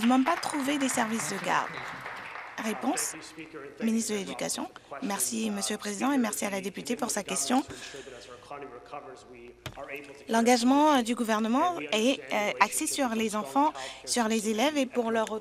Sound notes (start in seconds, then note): 3.3 applause